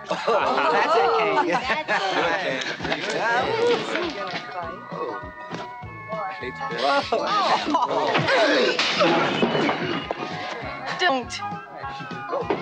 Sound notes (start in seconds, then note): 0.0 crowd jeers him on; 3.0 scuffling; 7.6 sniffs; 8.1 glass crashes